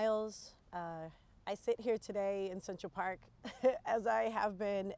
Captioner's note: chuckles